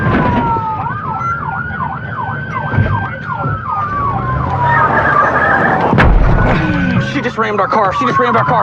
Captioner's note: sirirenen waiaililing